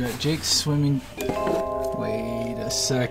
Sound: bell ringing

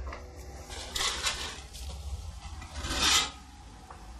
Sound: curtains rustling

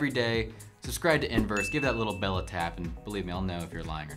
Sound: bell chimes

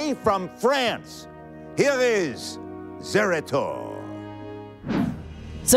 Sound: french accent

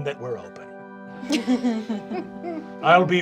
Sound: laughter

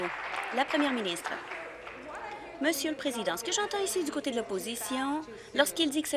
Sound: applause

